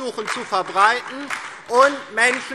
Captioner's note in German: Beifall DIE LINKE, SPD, BÜNDNIS 90/DIE GRÜNEN und Freie Demokraten